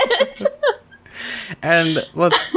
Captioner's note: laughs